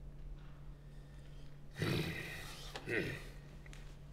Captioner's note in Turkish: Nefes sesi